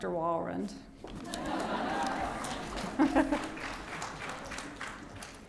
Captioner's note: audience laughing